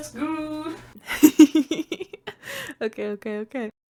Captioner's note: laugh